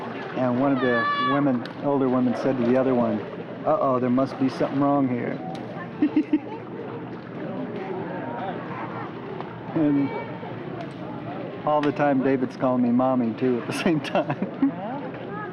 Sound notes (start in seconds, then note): 6.0 chuckles; 7.0 sound of children playing in pool